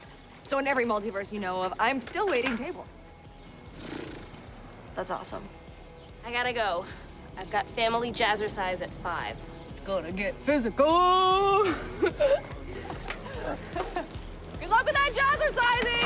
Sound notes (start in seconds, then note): 3.7 sputters lips; 11.4 both laugh